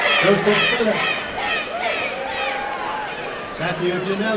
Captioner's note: applause and cheering